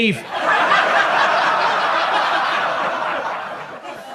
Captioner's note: audience laughs